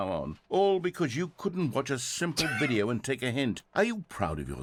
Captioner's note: laughs